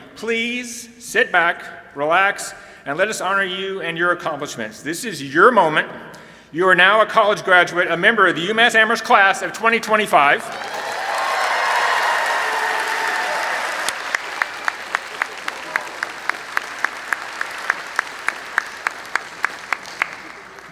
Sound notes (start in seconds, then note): 10.5 applause and cheering